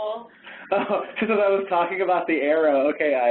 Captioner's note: laughs